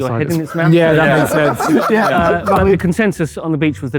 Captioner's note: group laughing